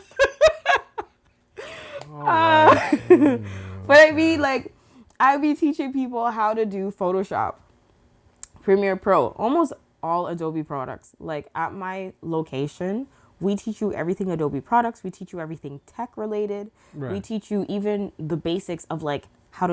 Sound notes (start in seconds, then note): 1.6 laughs